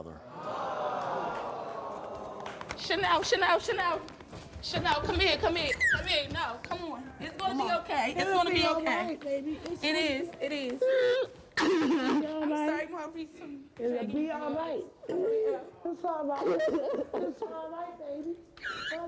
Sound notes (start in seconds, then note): 0.3 audience exclaims; 6.0 cries; 15.3 cries